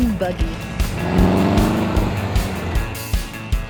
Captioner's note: engine revs